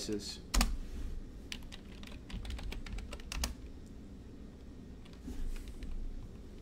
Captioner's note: keyboard typing